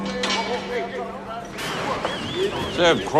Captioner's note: indistinct chatter